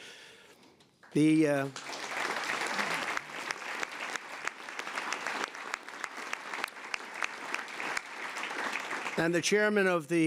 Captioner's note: applause